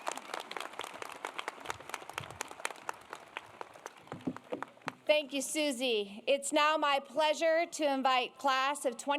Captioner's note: applause